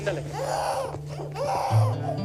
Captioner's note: crying Continues